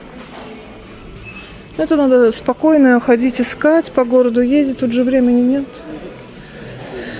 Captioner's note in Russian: вздыхает